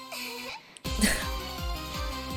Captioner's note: laughs